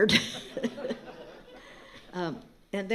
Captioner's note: laughter